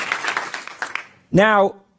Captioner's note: applause